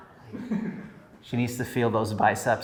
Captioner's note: chuckles